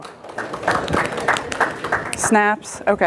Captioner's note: audience applauds